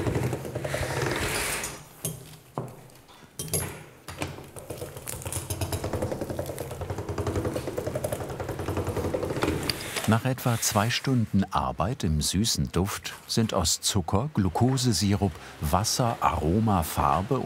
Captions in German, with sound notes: (Knistern, Rumpeln) Nach etwa zwei Stunden Arbeit im süßen Duft sind aus Zucker, Glukosesirup, Wasser, Aroma, Farbe